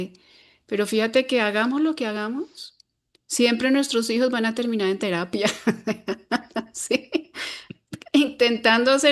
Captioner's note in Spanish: risas